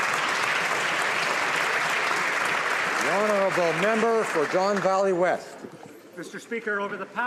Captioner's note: some Applause